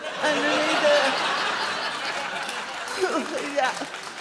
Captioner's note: audience laughs